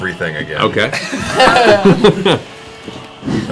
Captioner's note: laughter